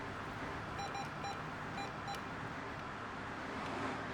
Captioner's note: beeping